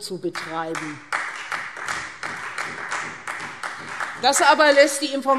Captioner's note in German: Beifall Freie Demokraten